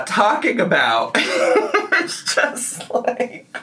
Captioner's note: laughs